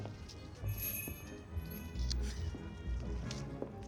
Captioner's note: door bell jingles